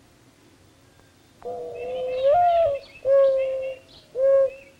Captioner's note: mourning dove call